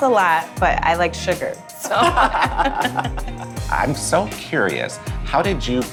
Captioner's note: laughs